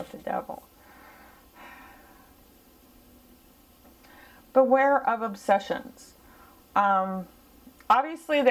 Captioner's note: sigh